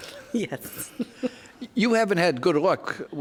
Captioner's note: laughs; chuckling